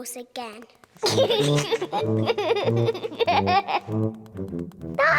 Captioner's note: giggling